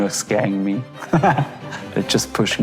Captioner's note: laughs